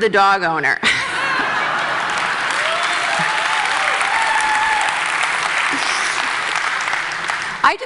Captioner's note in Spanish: Risas; Aplausos